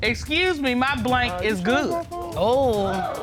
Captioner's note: judge dana reading